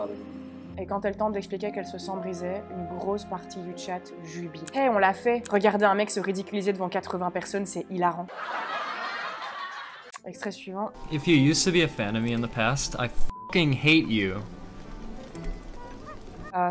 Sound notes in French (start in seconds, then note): 8.2 rires de sitcom